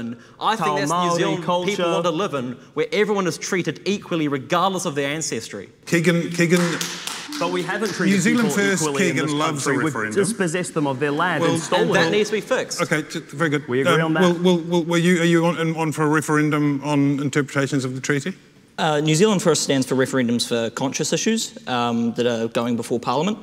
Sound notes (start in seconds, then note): 6.1 attendee applauding